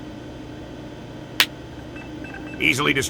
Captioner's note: finger snap